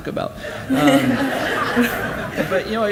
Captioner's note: audience laughs